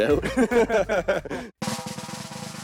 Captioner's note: laughter